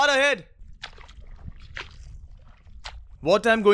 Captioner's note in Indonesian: Suara berjalan